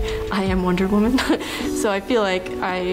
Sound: chuckles

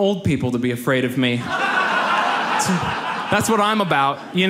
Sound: audience laughs

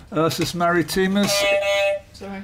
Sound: beep beep

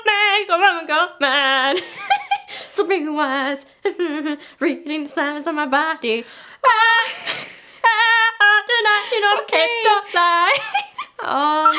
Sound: sings; giggles; mumbles; giggles

